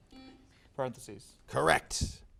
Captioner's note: buzzer sounds